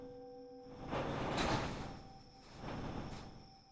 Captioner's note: door rumbling; gentle tense music